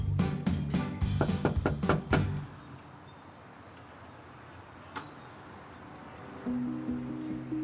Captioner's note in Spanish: Toques en la puerta